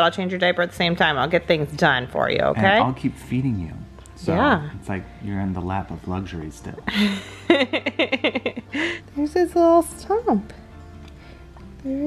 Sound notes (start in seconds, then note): 6.9 laughing